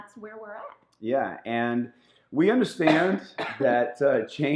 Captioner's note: woman coughing